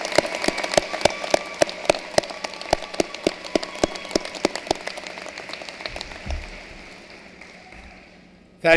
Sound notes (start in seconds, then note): 3.5 cheering and applause